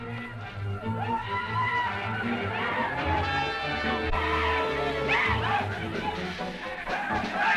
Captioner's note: cheering